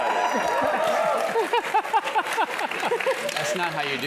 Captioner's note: laugh